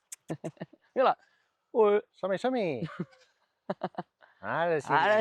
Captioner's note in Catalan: rialles